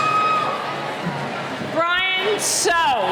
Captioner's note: cheering